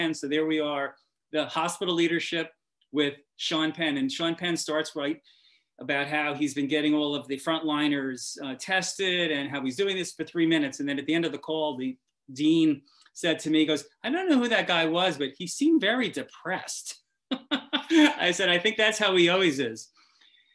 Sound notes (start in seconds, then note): 17.3 laughs